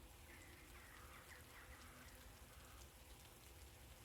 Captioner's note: birds singing